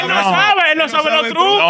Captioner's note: non-english Speech